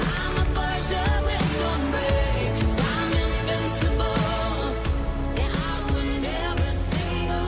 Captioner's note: applause